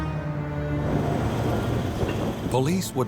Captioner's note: engines running